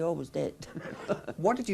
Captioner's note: chuckles